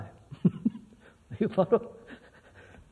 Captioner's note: laughs